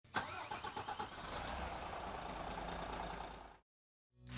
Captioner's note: coach engine revving